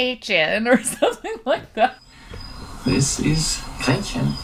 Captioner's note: laughs